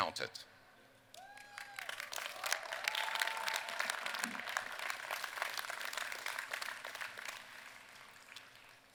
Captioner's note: applause